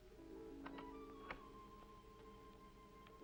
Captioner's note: ominous music; door opens; ominous music